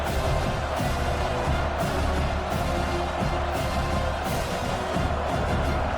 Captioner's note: crowd Noises